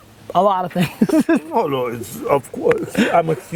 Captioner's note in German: Lachen